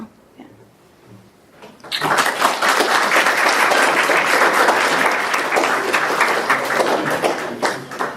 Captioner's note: applause